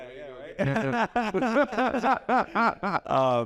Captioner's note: both laugh